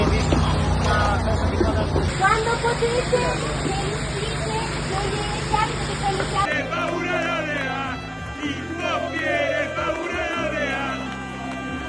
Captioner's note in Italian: Applauso